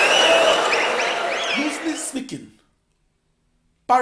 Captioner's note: wild applause and cheering for 22 seconds